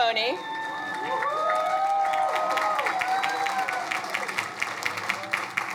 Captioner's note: crowd cheering; crowd applauding